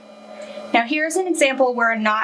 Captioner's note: machine whirring